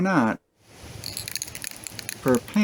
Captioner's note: paint can shaking sound